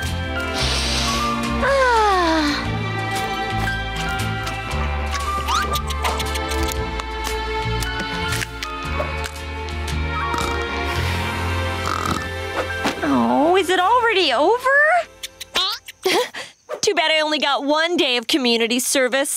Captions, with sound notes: [sniffing] Ah. [chittering] [snoring] Oh, is it already over? [chittering] [chuckles] Too bad I only got one day of community service.